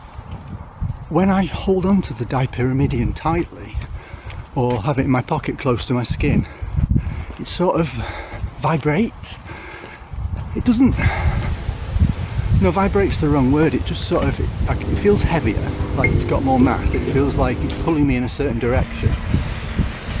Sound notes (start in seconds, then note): 13.8 canal gushing